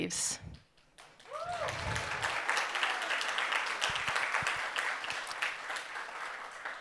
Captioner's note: audience cheering and applauding